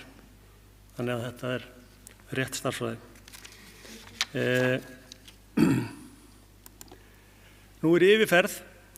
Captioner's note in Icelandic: ræskir sig